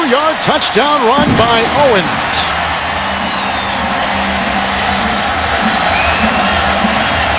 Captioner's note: cheers and applause